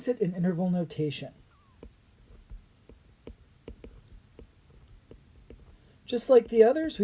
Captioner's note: writing